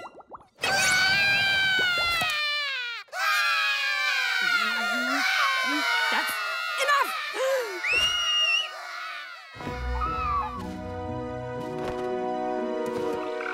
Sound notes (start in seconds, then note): 0.8 crying; 7.8 whistling; 8.6 crying